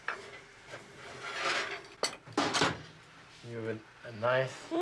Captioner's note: scraping